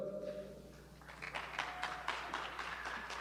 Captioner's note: cheers and applause